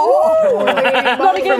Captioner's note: laughing